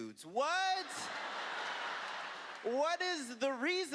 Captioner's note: laughter